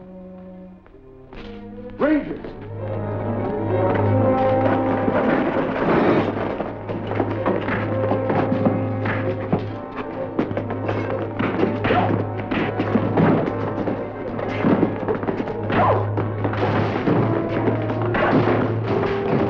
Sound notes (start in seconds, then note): 6.2 dramatic music; 6.2 grunting; 12.5 grunting